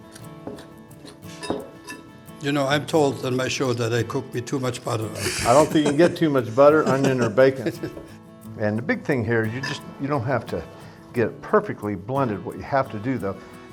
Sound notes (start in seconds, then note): 8.2 laughs